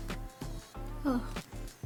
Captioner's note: sighs